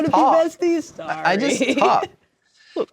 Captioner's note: laughing